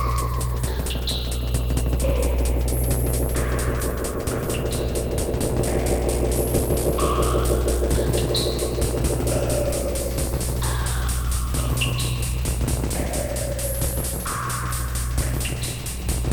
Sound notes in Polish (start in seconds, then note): 4.1 Niskie oscylujące dudnienie nasila się i opada; 8.3 Metaliczne uderzenia nasilają się; 8.3 Opadające i wznoszące się szumy